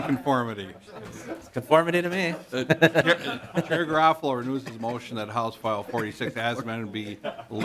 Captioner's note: laughter